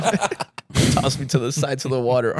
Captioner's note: laughing